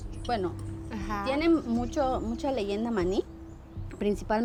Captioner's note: speaking Spanish